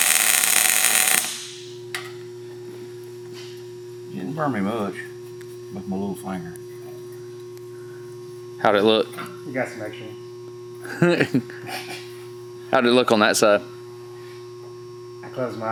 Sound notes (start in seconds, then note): 0.0 welding torch sizzles; 11.0 laughs loudly